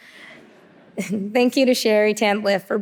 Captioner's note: audience laughing